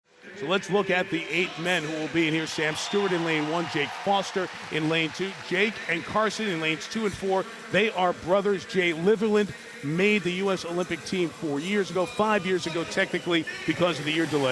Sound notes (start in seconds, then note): 1.1 audience cheering